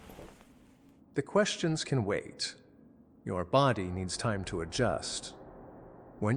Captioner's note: placating